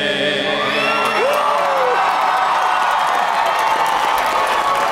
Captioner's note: audience applauding